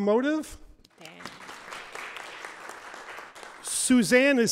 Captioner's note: audience applauds